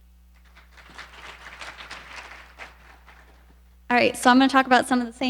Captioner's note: audience applauding